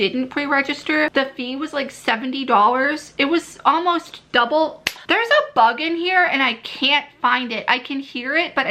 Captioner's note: clap